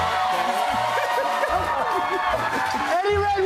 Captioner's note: cheers and applause